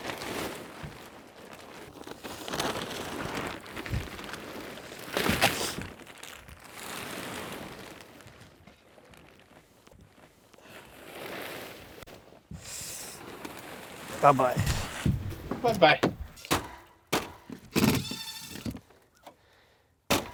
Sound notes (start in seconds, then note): 16.5 hammer thudding; 18.0 drill whirring